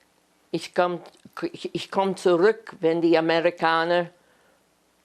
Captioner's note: german